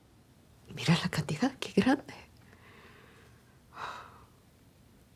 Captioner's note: wife speaking Spanish